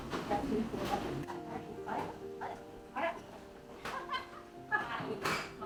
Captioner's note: laughing